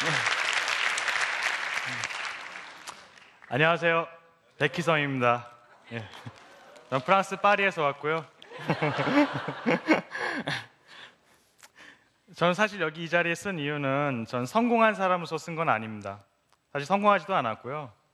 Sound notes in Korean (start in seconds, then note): 11.2 웃음